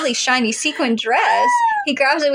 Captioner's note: squeal